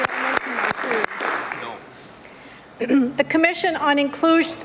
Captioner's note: applause